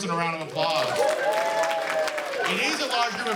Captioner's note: cheers and applause